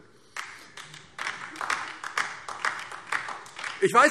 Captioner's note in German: Beifall DIE LINKE